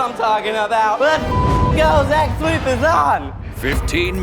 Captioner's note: beep